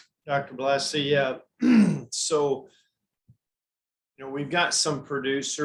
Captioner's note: clears throat